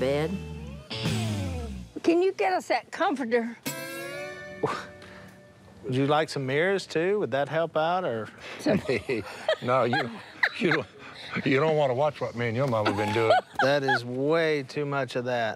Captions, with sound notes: and what people do in that bed. Can you get us that comforter? [scoffs] Would you like some mirrors too? Would that help out, or...? -Some-- [laughs] -[laughs] No, you, you-- you don't wanna watch what me and your mama been doing. That is way too much of that.